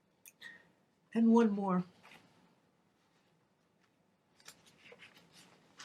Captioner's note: paper rustling